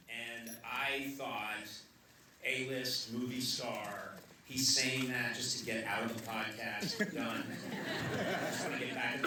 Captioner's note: laughter